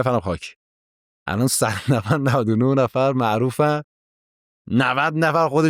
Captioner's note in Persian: خنده